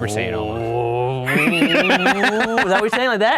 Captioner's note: grunting; laughing